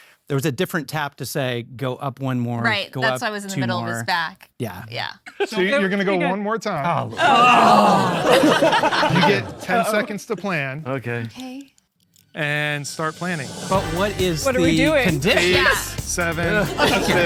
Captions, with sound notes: to where there was a different tap to say go up one more. - Right. - Go up two more. - That's why I was in the middle of his back. - Yeah. - Yeah. - So, you're gonna go one more time. (group exclaiming) (all laughing) You get 10 seconds to plan. - Okay. - Okay. - And start planning. - But what is the... - What are we doing? - Condition?